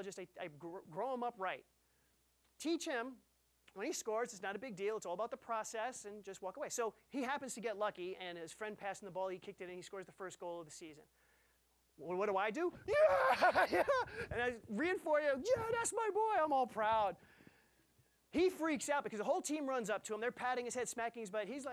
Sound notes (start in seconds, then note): 12.9 laughing